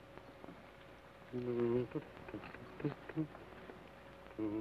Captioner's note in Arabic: يدندن بلحن جميل